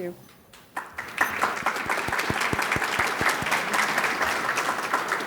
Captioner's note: audience claps